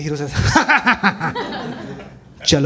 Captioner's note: tharki, condescending laughter